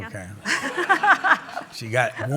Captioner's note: laughter